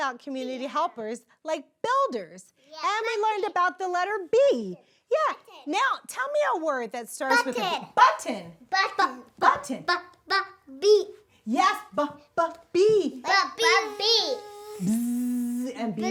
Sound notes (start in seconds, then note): 13.6 Zoe buzzing; 13.8 Mrs. Colon buzzing